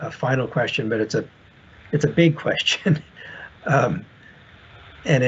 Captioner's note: chuckles